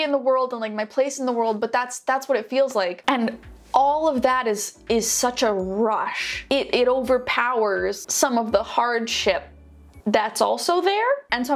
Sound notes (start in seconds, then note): none